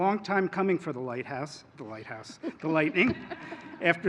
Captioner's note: laughter